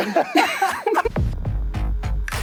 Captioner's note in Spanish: risas